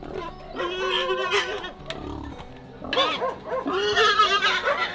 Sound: pig squeals

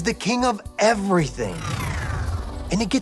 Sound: electricity whirring

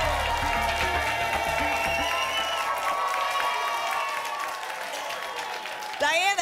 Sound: applause and cheering cont

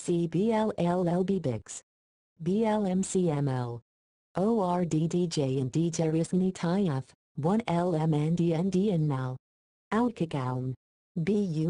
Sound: computerized voice

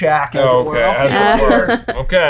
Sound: laughing

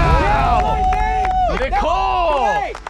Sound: cheering

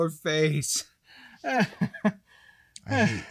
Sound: laughs

